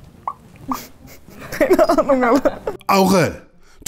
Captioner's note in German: lacht